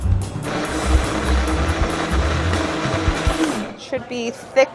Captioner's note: blender whirring